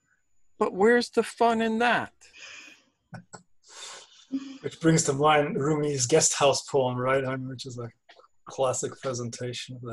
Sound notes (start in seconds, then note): 2.1 laugh